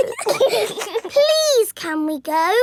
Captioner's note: giggling